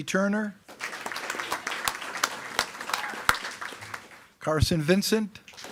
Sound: attendees clapping

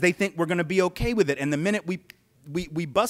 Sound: fingers snap

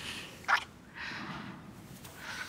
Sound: kiss

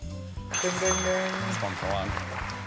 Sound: bell rings

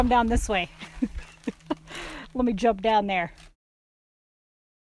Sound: laughing

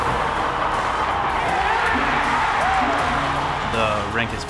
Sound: cheering

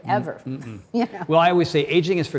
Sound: chuckles

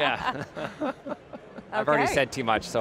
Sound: laughs

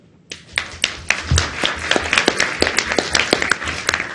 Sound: audience applauds

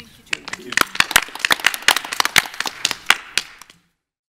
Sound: audience applauds

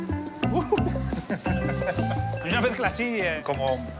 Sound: laugh

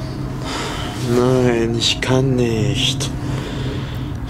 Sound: Alex exhales

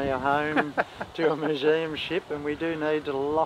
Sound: laughing

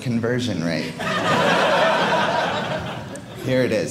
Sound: audience laughing

